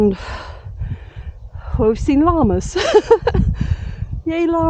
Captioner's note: laughing